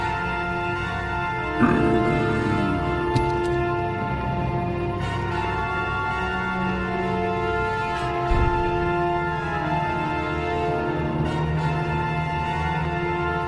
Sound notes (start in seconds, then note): 1.5 zombie groaning; 5.0 intense music